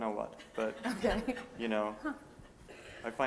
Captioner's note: laughter